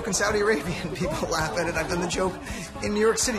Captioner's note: laughs